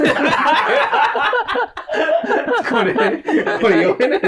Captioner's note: laughing